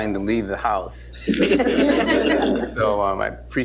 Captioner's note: laughter